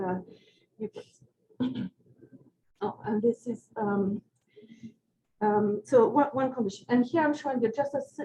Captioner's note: clears throat